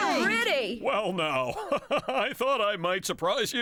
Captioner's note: chuckling